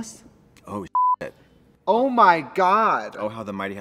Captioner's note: beep